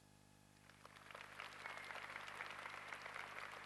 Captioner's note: applause